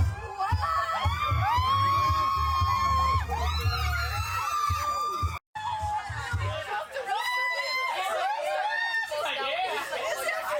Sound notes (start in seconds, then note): 0.0 the crowd goes wild